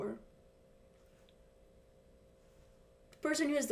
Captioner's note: silence